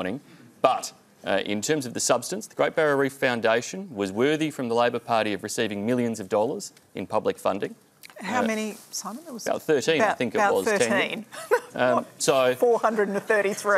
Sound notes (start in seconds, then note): 11.3 laughs